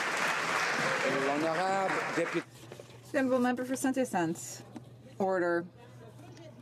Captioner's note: some Applause